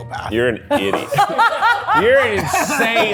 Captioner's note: crew laughing